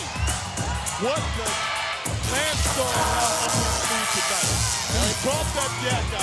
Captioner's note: electricity crackles